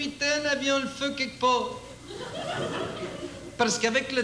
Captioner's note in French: rires